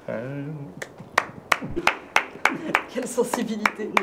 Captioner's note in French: applaudissements